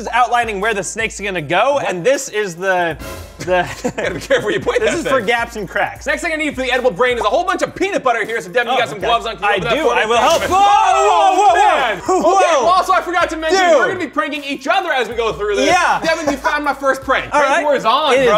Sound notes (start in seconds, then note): 3.0 suspenseful music; 3.4 laughs; 10.3 both screaming